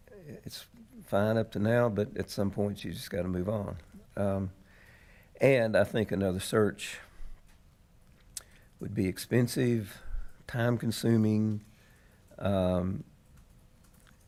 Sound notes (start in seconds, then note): none